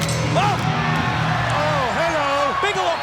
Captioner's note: bell ringing